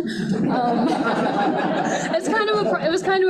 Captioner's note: group laughing